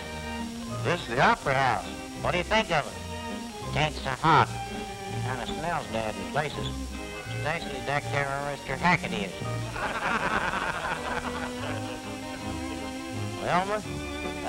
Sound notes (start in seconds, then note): 9.6 laughter